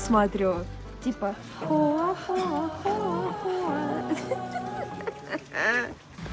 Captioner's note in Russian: смех